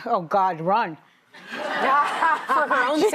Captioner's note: laughter